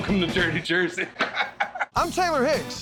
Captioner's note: laughter